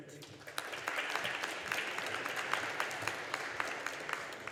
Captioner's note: audience applauding